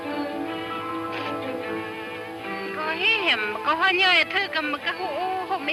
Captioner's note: speaking foreign language